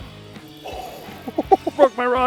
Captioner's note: laughing; rod brakes